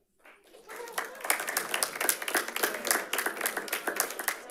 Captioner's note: audience applauds